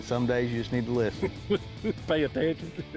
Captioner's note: laughs